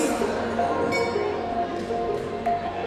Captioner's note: bell